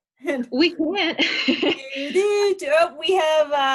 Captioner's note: laughs